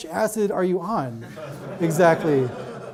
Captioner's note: audience laughs